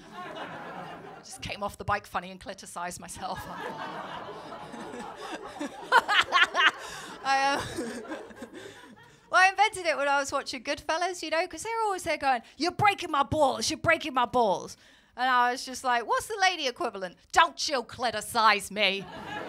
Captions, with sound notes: [LAUGHTER] Just came off the bike funny and clitorcised myself. [LAUGHTER] I invented it when I was watching Goodfellas, you know. Because they’re always there going, [AMERICAN ACCENT] 'You’re breaking my balls, you’re breaking my balls.’ And I was just like, what’s the lady equivalent? [AMERICAN ACCENT] ‘Don’t you clitorcise me.’